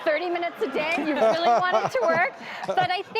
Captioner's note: audience laughing